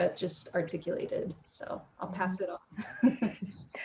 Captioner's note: chuckles